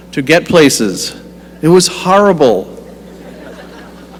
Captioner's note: laughter